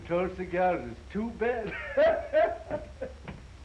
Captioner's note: laughing